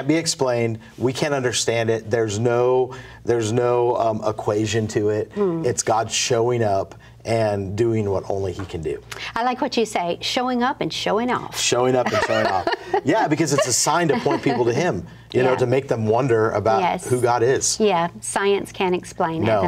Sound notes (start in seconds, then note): 12.0 laughs